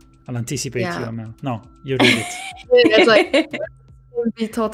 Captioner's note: laughs